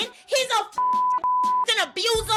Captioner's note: beep